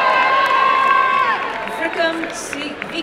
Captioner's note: applause and cheering